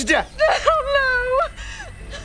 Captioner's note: sobbing